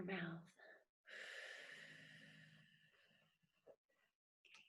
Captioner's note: exhales